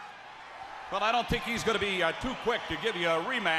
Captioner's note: crowd cheering